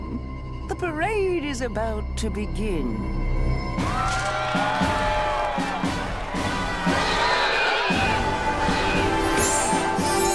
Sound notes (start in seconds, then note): 3.8 cheering; 6.3 shrieks